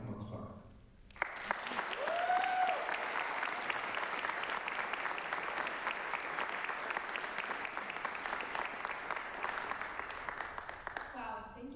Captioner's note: applause